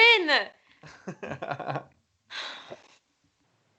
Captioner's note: robin laughs